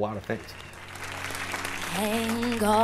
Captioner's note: applause